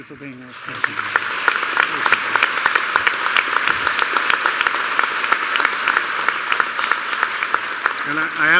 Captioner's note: applause